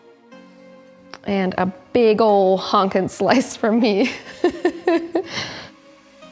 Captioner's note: laughs